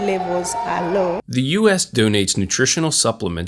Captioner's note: voiceover